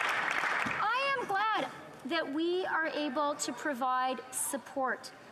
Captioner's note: applause